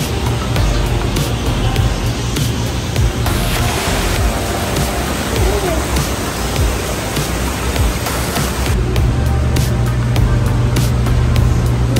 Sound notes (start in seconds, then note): 5.1 airy white noise rumbling